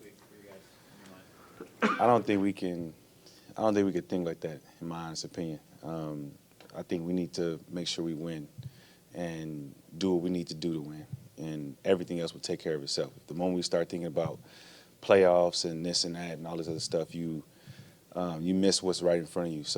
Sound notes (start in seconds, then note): 1.5 audience member coughs